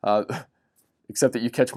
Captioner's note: chuckles